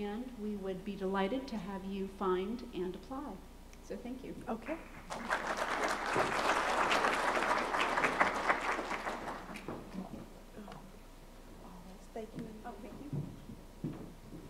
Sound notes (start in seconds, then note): 5.0 applause